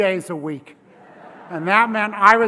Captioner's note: laugh